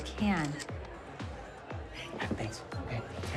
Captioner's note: camera shutter clicks